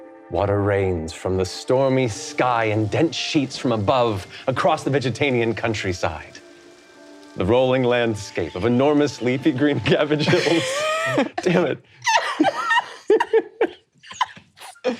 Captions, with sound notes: Water rains from the stormy sky and dense sheets from above, across the Vegetanian countryside. The rolling landscape of enormous leafy green cabbage hills. (players laughing) Dammit.